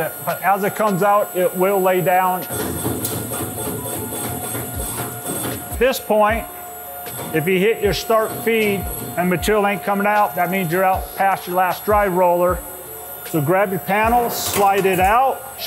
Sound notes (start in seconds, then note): 2.4 machine knocking